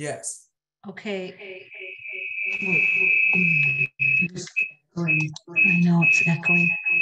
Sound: speaker squeaks

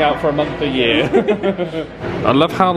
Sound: laugh

